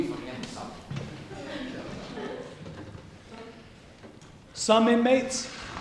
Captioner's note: laughter